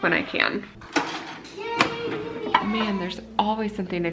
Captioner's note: microwave door opening